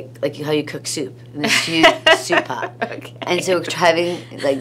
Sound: laughs

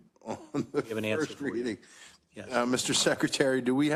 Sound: laugh

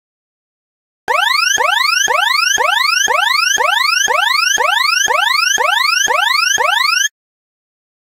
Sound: alarm sound

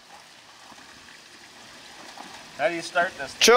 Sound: water running

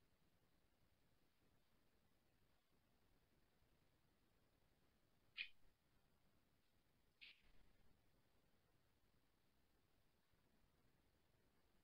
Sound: silence

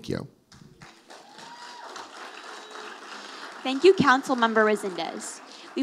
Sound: audience applauding

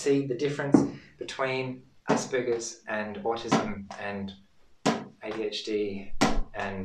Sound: ball thuds; ball thuds

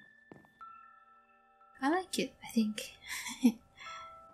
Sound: giggle

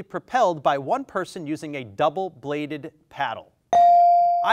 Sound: bell dings

